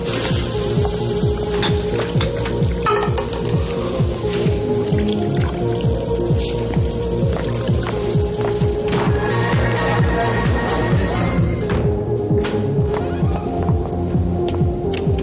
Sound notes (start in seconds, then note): 0.2 sink water running; 1.3 drinks clinking